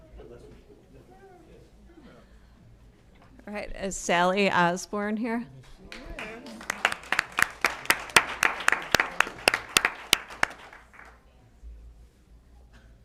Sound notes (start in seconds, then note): 5.8 applause